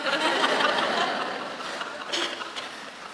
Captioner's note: laughing